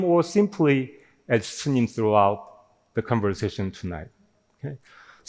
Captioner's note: none